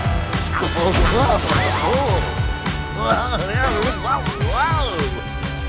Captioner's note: babbling